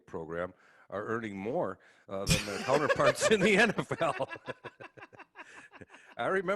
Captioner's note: laugh